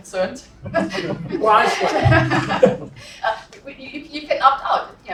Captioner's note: laugh